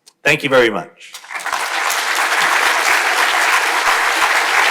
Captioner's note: crowd applauding